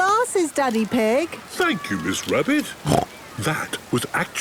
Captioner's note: snorts